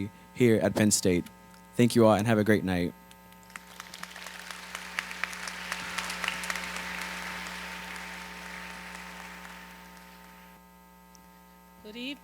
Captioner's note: applause